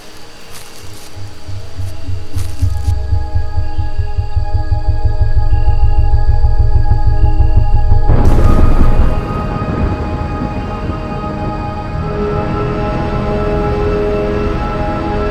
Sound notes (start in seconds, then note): 0.2 whirring; 7.8 thunder claps